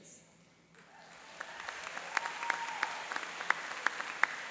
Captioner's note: cheering and applauding